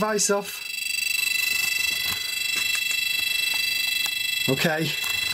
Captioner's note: electronic whirring